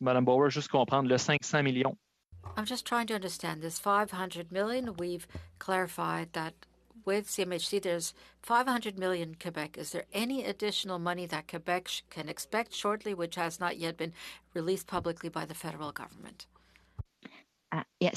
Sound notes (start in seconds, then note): 7.4 speaking French